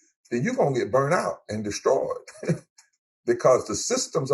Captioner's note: laughs